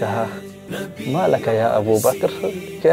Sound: Arabic

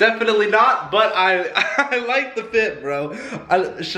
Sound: laughs

